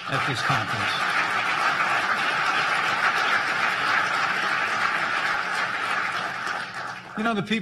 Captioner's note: applause